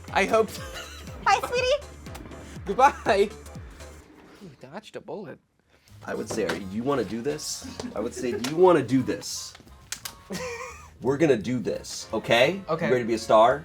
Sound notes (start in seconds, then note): 10.3 laughs